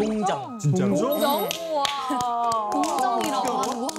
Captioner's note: claps